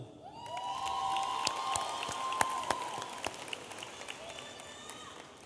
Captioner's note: audience applauding and cheering